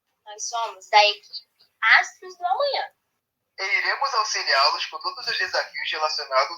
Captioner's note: characters speaking in foreign language